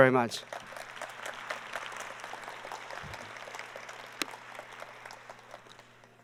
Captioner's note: LEAD APPLAUSE away from mic